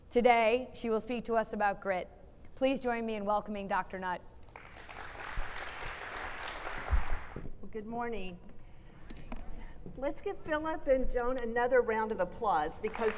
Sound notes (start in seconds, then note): 4.5 crowd applauds